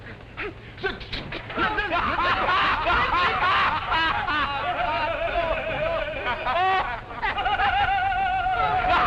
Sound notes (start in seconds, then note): 1.4 laughter